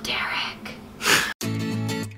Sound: laughing; upbeat music

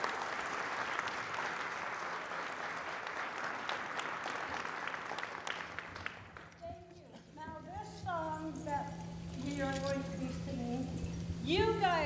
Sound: applause

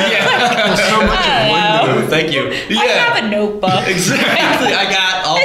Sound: laughter

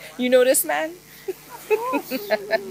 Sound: laughter

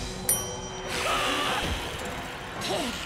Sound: hissing; screaming

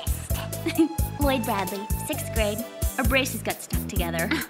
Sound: chuckles

